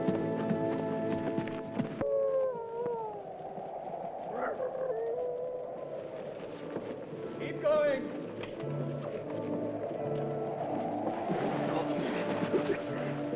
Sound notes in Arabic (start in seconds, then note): 0.0 موسيقى درامية; 1.8 عواء الذئاب; 9.4 موسيقى درامية